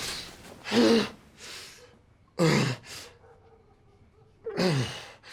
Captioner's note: gasping; breathing heavily